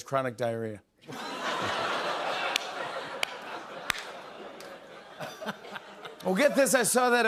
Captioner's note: laughter